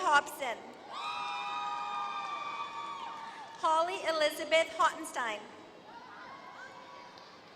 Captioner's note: applause